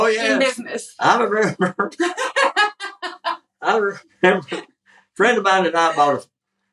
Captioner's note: laugh